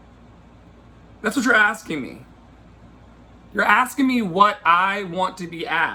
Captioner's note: none